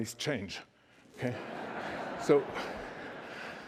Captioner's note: laughter